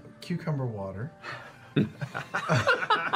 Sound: laughing

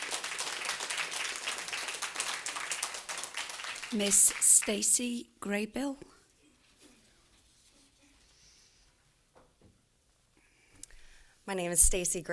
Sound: applause

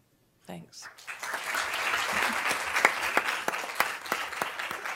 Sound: applause

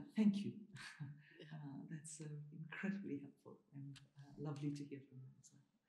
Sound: chuckles

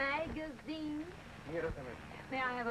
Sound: speaking in Spanish

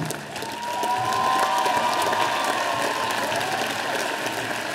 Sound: audience applauding

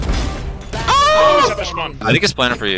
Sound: screaming

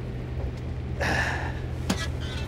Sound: sighs

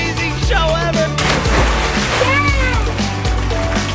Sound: laughs; water splashes

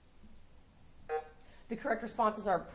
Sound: buzzer sounding

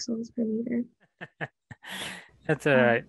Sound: laughter

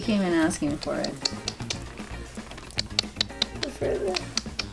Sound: tongue clicking

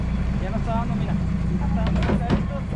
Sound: boat engine idling; speaking in spanish; fish splashing

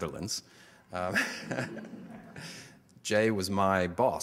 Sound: audience laughter

